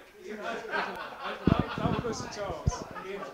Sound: laughter

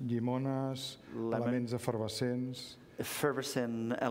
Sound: speaking catalan

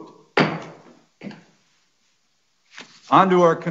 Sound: gavel hitting

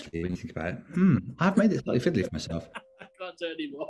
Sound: grunts; laughs

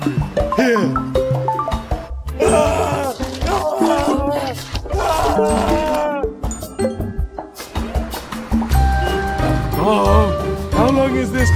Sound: shrieking

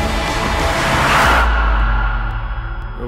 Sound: tires screech

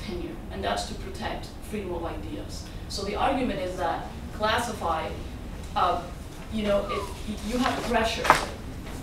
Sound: whistles

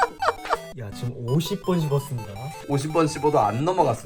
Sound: he keeps chewing

